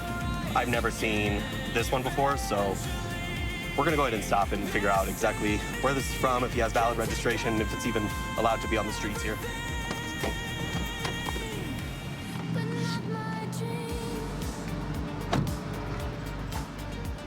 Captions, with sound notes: I've never seen this one before. So we're going to go ahead and stop and figure out exactly where this is from, if he has valid registration, if it's even allowed to be on the streets here. [distant traffic hum]